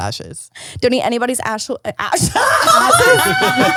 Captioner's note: laughing